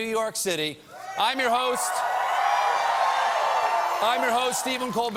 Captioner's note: cheers and applause